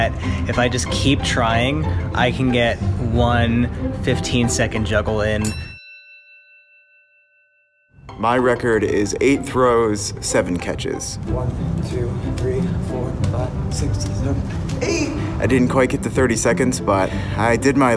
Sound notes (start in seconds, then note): 5.4 ding